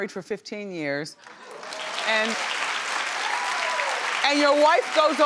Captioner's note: audience cheering